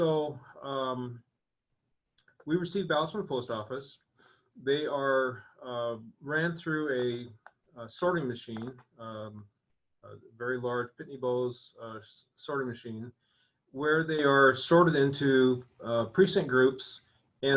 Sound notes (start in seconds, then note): none